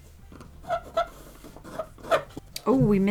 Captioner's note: pencil scrapping on the paper